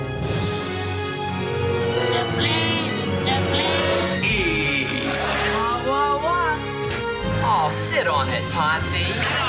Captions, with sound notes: (plane flying) - The plane, the plane. - Hey. - Oh sit on it, Potsie.